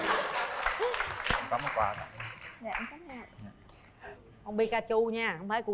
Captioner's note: applause